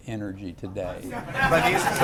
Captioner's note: laughter